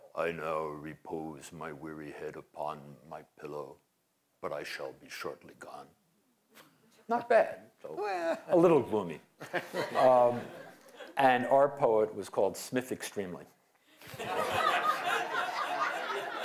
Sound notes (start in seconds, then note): 14.0 laughter